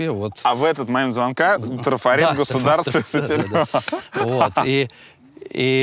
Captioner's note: both laugh